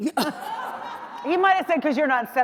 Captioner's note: audience laughs